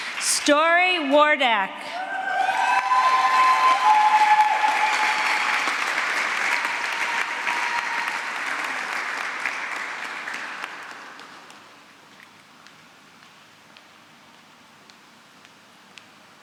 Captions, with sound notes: Sturre Wardak. [APPLAUSE]